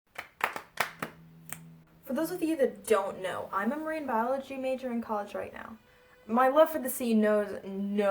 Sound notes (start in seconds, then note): 0.1 clap clap clap clap snap